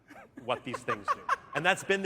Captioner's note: laughter